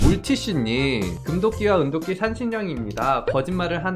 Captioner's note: voiceover